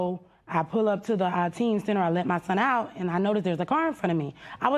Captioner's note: none